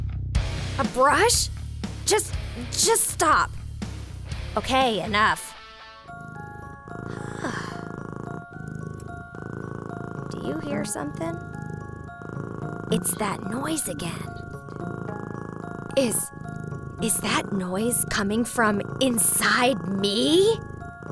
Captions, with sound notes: A brush!? Just — just stop. OK, enough. (purring) (sigh) (purring) Do you hear somethin’? It’s that noise again. Is — is that noise coming from... inside me?!